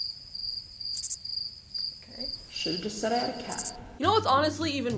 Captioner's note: crickets